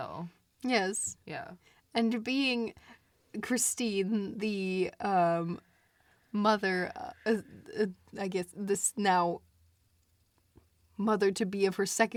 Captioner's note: stammers